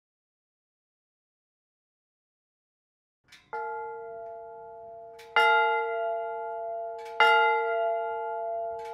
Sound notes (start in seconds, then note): 3.5 bell ringing